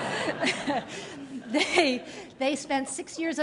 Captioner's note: laughter